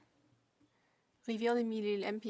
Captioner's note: speaking French